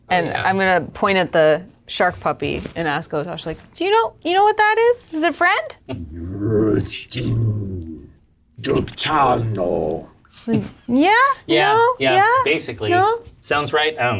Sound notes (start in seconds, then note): 6.4 speaks fantasy language